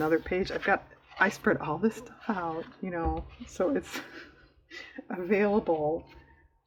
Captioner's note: laughs